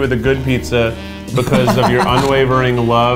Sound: laughs

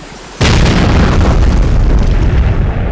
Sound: explosion

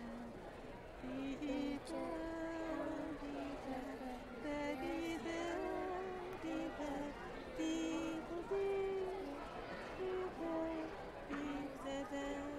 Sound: humming melody

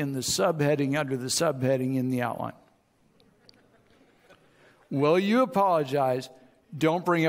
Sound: audience chuckles

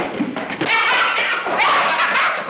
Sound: loud laughter

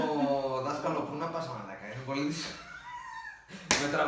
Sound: both Laughing hysterical

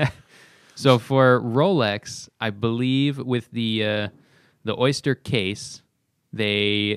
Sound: laughter

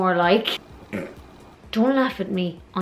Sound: snorts

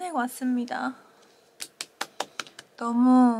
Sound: applause

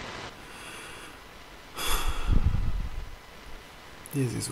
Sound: sigh

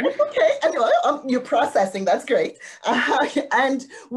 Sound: laughing

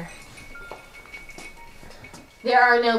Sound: ice cubes clatter

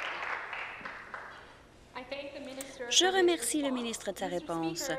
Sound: applause

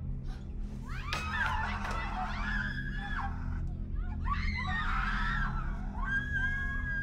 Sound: ominous music; woman screaming

